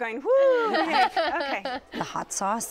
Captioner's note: laughter